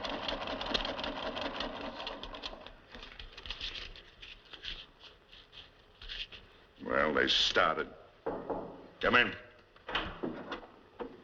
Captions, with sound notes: [ Typing Stops ] Well, they've started. [ Knocking ] Come in.